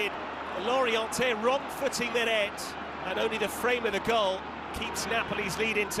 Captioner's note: cheers and applause; crowd noise